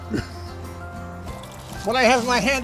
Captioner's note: chuckles